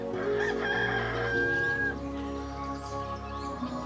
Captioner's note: rooster crowing